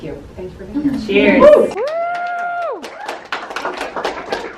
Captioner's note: crowd; applause